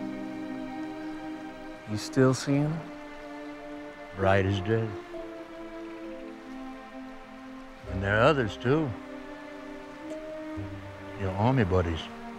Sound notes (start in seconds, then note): none